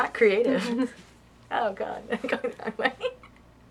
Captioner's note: laughter